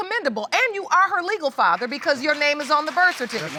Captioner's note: audience applauds